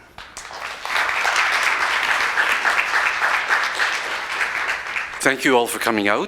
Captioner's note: A round of applauds